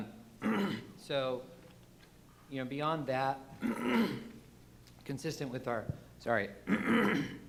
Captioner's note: clears throat